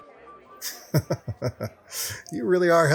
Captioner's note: laughs